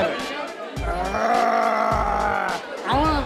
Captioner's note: growling